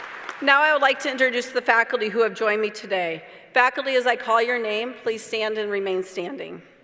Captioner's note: applause